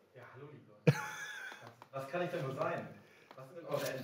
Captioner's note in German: Gelächter